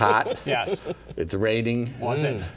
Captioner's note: laughing